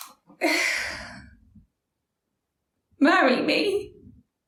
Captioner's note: sighs